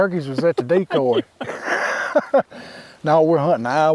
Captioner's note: hunters laughing